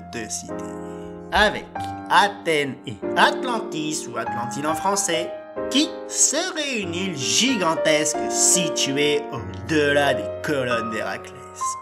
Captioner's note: sigh